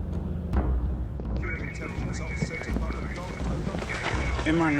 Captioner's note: police radio chatter